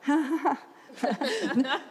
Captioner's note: laughs